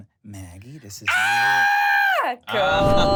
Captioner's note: screams